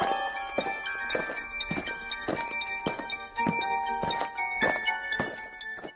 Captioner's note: eerie music; aliens marching